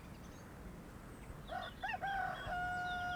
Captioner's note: cock crows